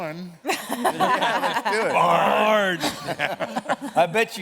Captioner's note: laughter